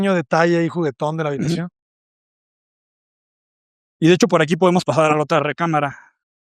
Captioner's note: carraspeo